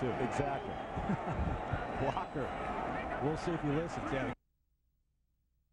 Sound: laughs

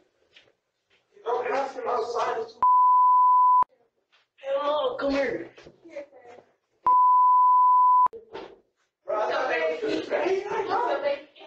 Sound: indistinct chatter with panic and fear

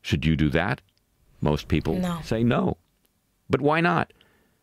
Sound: voice-over

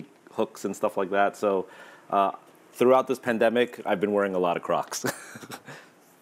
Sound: laughs

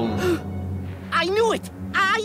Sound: Bugs Bunny gasps

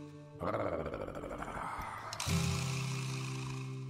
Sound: growling

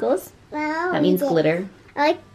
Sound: babbles

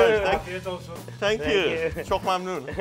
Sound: speaking in foreign language

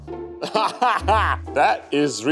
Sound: laughing

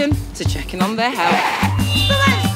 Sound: tires screeching, audio feedback

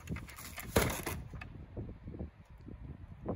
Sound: sound of the balcony hitting the ground

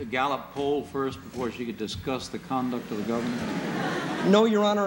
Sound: laughter

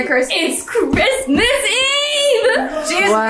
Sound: chuckles

